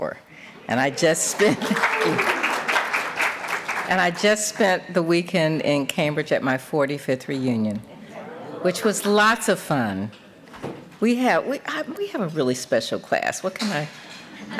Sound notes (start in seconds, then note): 1.2 applause